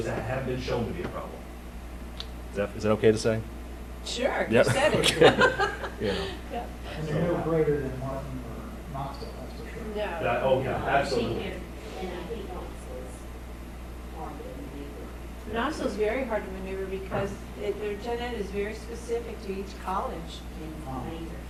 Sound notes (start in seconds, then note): 4.7 laughing